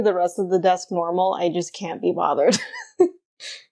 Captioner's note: laughs